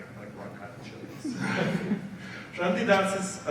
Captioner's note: audience laughs